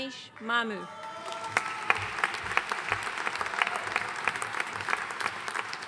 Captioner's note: audience cheering and applauding